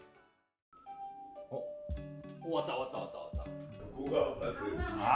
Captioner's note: ding dong- Ding dong